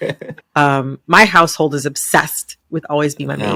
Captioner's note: laughter